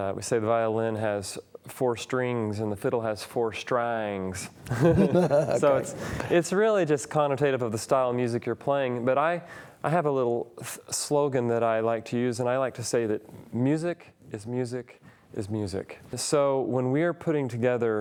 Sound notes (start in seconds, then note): 4.6 laugh